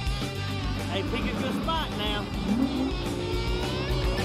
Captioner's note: engine revs